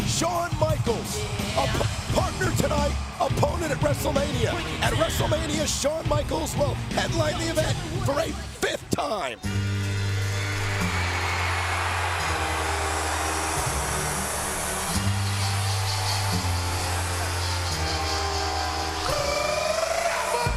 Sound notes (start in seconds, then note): 9.6 light music; 9.8 audience cheering